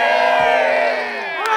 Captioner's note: cheering